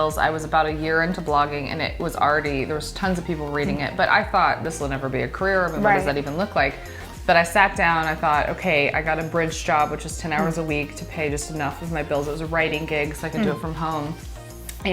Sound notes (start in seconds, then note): 5.8 laughs